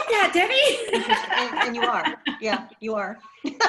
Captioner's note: laughter